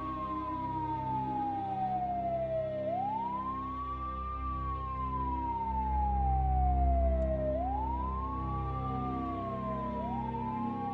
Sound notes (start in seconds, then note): 0.2 somber music; 6.4 sirens blaring